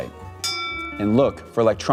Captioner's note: bell rings